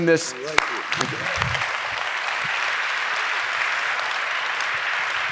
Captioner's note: clapping